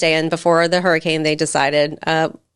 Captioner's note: none